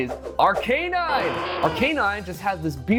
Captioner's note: Arcanine roaring